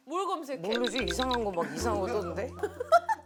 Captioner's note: thonking